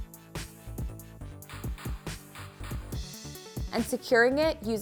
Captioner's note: upbeat music; metal clinks